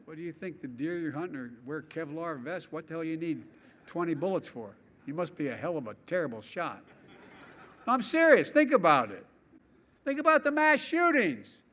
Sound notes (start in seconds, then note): 6.8 laughter